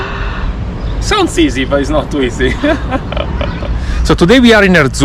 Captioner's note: laughs; laughs